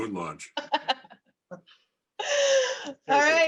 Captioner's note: continues laughing